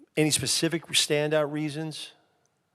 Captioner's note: none